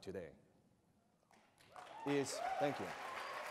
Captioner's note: applause